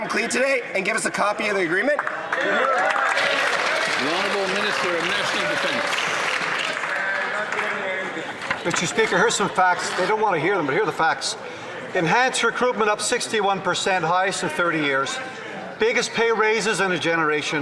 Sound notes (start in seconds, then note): 7.7 some Applause